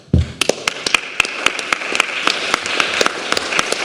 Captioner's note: applause